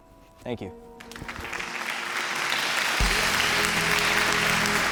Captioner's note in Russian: аплодисменты замечательной речи